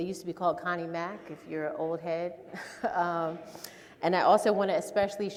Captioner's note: laughs